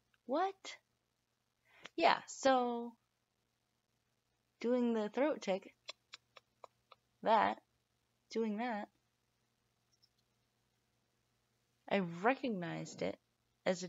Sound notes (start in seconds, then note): 5.4 click click click